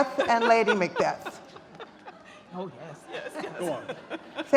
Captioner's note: laughs